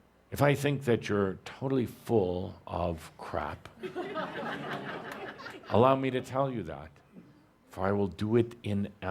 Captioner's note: laughter